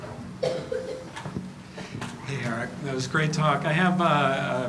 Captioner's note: cough